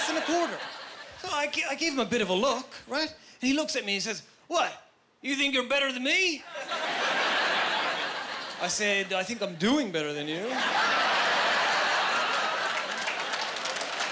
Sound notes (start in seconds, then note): 6.5 laughing; 10.4 laughing